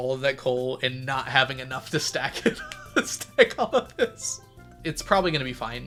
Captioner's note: laughs